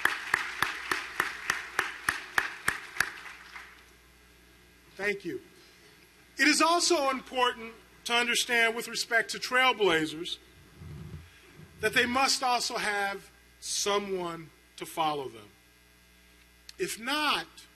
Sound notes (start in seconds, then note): 2.2 applause